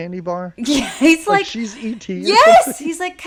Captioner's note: laughs